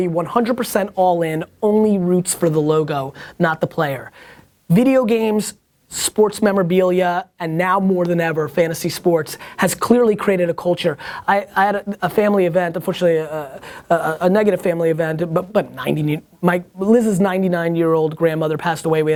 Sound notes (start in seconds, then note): none